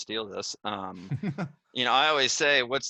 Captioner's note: laughs